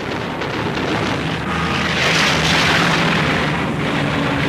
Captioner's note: plane engine roars